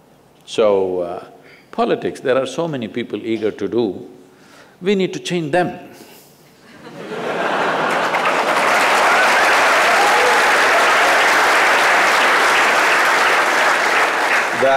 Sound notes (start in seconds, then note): 6.8 laughter/Cheers/Applause